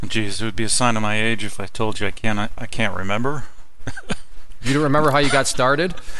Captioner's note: laughing